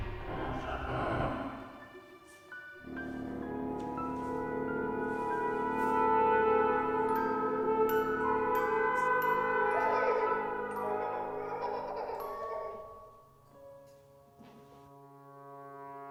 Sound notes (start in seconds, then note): 3.3 eerie music; 10.7 girl giggling